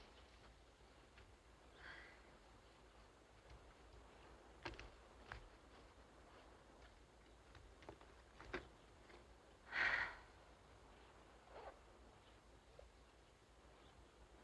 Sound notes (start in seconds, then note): 1.6 sighs; 9.7 sighs